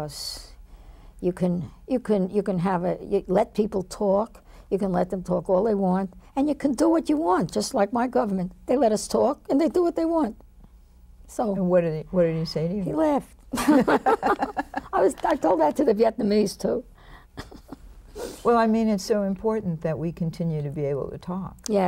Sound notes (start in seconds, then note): 13.5 both laugh